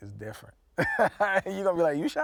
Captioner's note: laughing